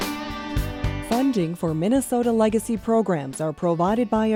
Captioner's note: voiceover